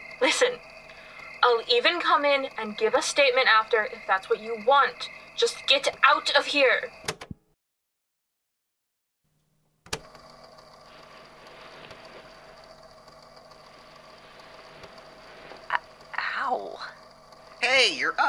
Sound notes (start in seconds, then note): 16.3 click; 16.3 shifting of blankets